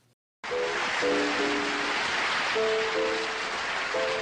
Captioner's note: audience applauding